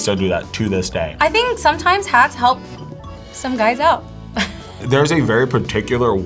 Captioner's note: laughs